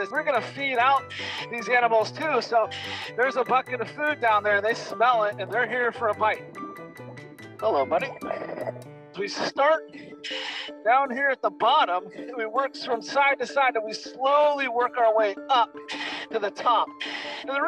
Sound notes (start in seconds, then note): 6.2 water bubbling